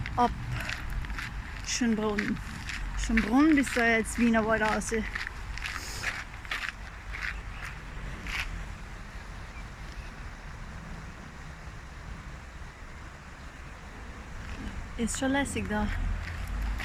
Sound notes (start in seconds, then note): 9.5 rushing creek